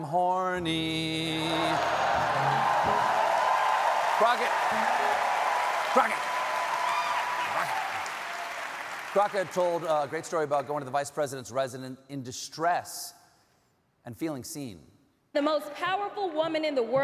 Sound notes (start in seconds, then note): 1.3 cheers and applause